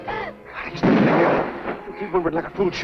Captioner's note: gunshot